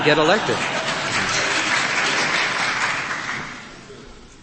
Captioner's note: applause from crowd